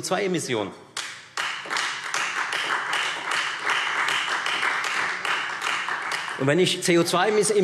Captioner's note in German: Beifall Freie Demokraten